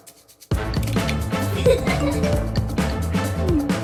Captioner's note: laughing